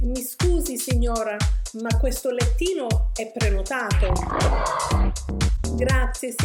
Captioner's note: tiger growl